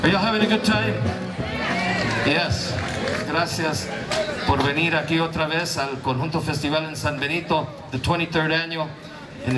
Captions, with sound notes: - Are y'all having a good time? (audience responds) Yes. (speaks in Spanish) The 23rd annual.